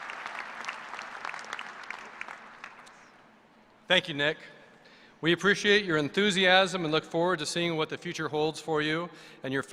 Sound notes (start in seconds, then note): 2.7 applause